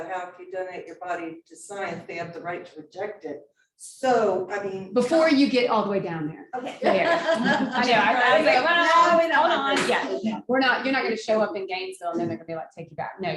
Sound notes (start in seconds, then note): 6.6 laughing